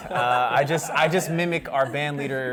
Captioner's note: laughter